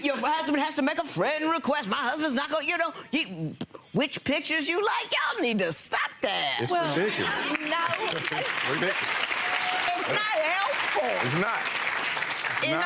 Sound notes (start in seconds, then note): 7.4 audience claps